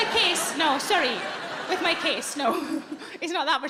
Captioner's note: audience laughing